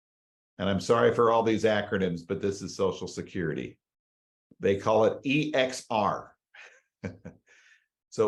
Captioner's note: chuckles